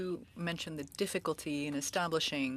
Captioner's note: speaking French